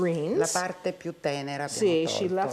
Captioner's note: speaking Italian